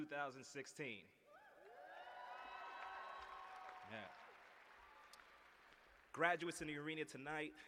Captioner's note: cheers and applause